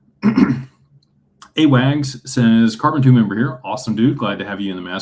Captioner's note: clears throat and cough